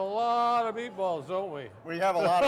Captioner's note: all laugh